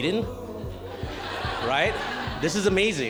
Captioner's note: laughing